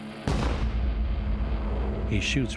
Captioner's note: gun fires